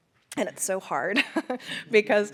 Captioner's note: laughs